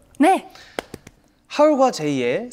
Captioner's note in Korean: 짝짝짝